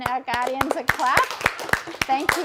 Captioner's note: group claps